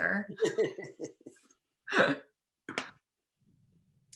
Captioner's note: both laugh